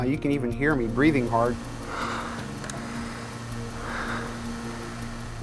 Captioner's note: breathing heavily